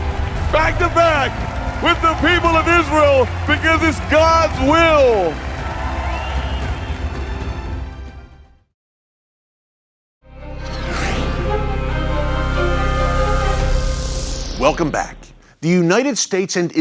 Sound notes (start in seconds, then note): 4.9 audience applauding; 10.6 upbeat music